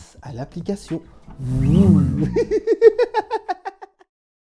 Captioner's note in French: rires